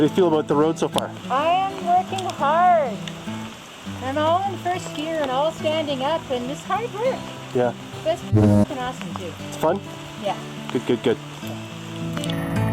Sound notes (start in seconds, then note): 8.5 foghorn blares